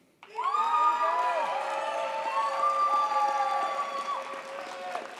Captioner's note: audience cheers and applauds